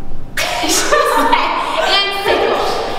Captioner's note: laughing